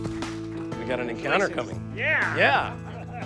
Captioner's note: talking softly; laughing